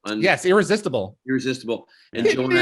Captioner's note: cries